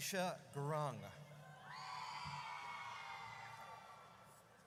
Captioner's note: audience cheers